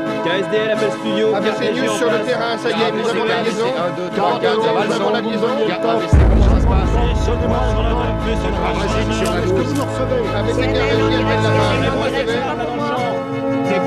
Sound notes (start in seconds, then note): 3.6 overlapping chatter; 10.2 overlapping chatter continues